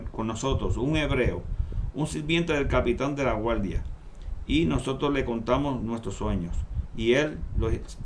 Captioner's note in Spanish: Hebreo